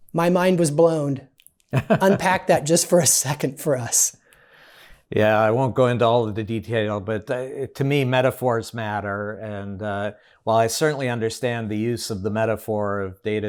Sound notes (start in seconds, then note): 1.7 laughs